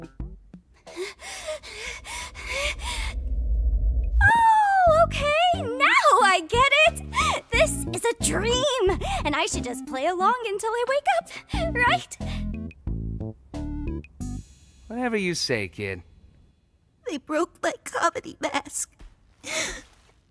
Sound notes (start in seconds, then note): 0.8 clown panting; 19.4 sobs